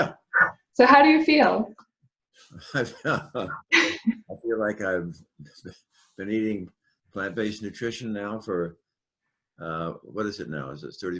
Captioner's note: laugh